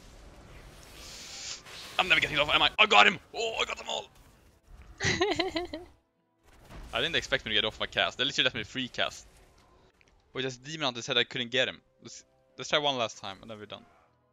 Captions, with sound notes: I am never getting this off am I? I GOT HIM! OHHH I got them all! (haha) I didn't expect to get off my cast, they literary let me freecast Wait its the Demon Hunter that said I couldn't get him! Lets try one last time, then we are done